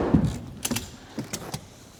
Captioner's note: click